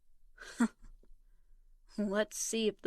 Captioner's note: Vivian scoffs